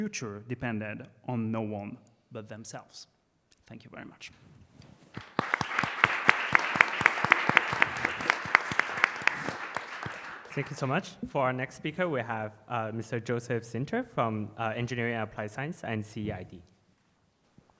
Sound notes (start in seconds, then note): 5.1 applause